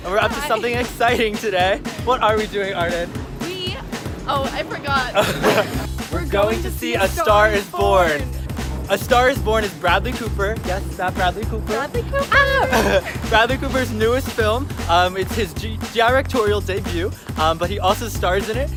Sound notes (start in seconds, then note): 5.0 laughing; 12.0 squeals with excitement